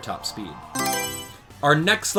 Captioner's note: Mario Selection Sound